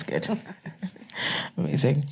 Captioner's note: chuckling